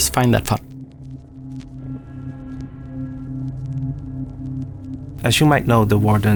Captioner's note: deep Dark Sounds